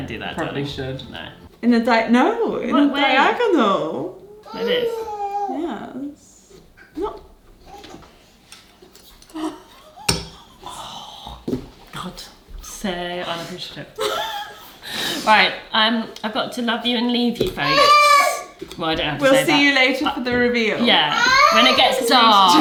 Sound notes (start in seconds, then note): 10.7 scoffs; 14.2 wheezes